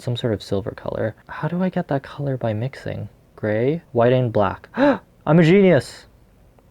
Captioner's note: gasp